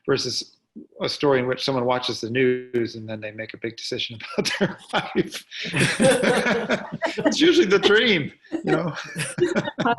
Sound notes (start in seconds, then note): 4.0 laughing; 5.6 all laughing